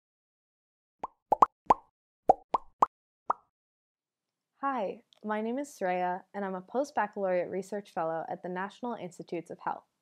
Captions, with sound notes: [ Popping ] >> Hi, my name is Sreya and I'm a postbaccalaureate research fellow at the National Institutes of Health.